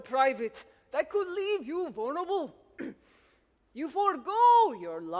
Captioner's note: clears throat